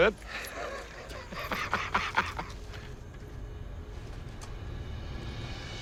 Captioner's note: laughs